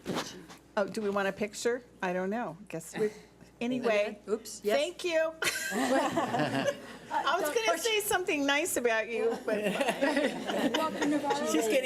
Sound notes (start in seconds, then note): 5.5 laughs; 9.3 laughs